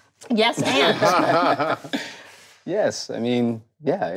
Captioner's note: group laughs